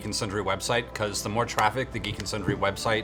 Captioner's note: none